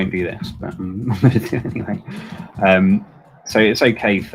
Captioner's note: laughs